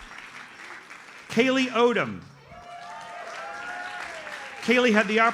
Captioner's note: audience applauds; audience cheers and applauds